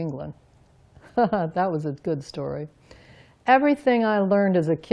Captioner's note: laughs